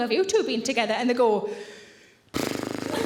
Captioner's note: blows raspberry